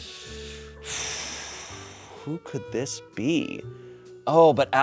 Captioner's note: exhales sharply